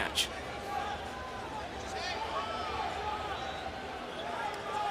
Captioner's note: crowd cheering